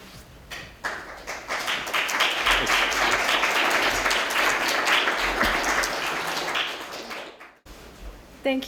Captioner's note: applause